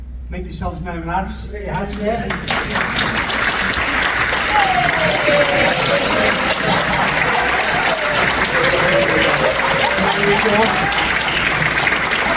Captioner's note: audience cheer and applause